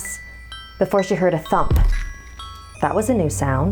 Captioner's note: thump sound